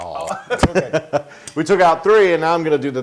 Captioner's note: laugh